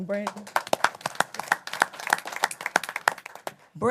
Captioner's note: applause